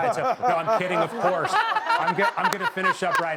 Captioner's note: crowd laughs